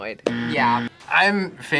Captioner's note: buzzer rings